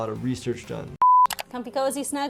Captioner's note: mouse clicking; tone beeps